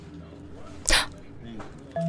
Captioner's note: gasp